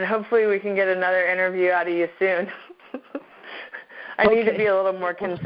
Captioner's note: laughs